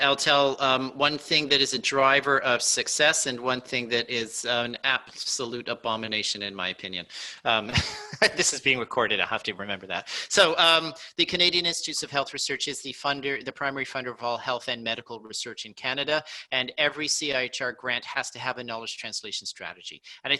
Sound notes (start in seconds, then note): 7.1 laughs